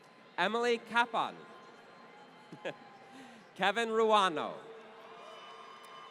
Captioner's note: laughter